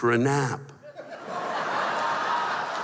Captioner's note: laughter